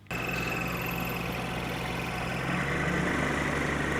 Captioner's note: engine rumbling